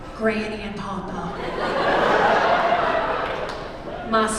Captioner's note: laughter